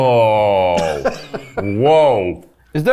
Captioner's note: crew member laughing